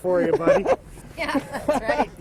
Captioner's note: laughing